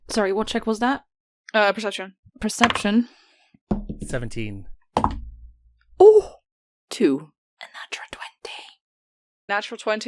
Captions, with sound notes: Sorry, what check was that? Perception. Perception. [Dice clickety clacks!] 17. [Dice thunks] Oh! 2. (Whispering) A natural 20.